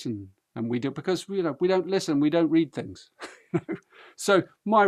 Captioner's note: laughs